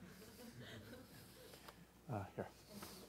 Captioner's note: laughter